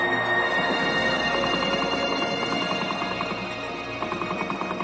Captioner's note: guns blasting